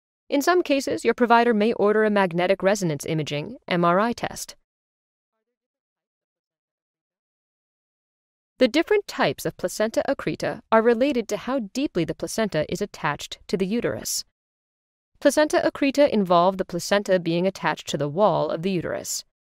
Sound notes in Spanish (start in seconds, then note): 4.6 silencio